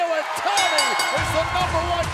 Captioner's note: bell ringing